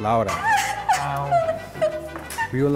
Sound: weeps

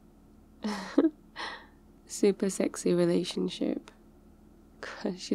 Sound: laughs

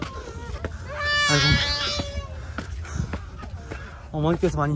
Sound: baby crying

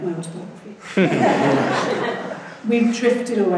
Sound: laughing

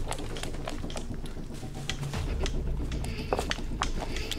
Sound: rustling; footsteps pounding

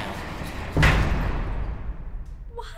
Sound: dungeon door slams

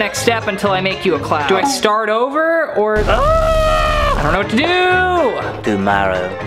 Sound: screams

